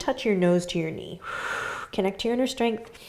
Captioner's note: exhaling